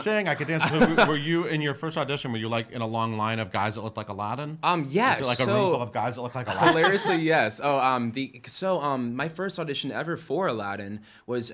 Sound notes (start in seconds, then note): 6.4 laughing